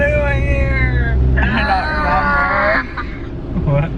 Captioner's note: Imitates Jaquie yelling